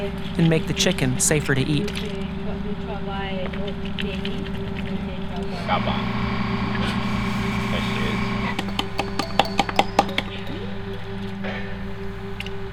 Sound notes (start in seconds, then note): 4.9 drill rig in distance; 8.3 pounding